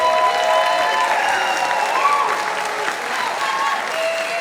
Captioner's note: audience applauding